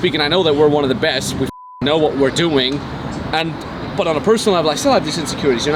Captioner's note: beep